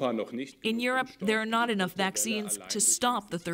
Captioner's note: speaking Foreign Language